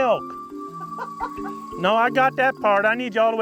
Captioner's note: laughter